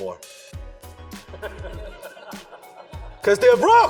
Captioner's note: audience laughs